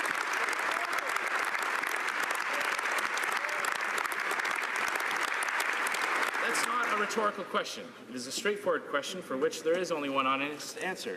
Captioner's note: applause